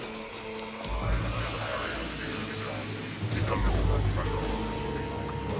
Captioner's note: speaking alien language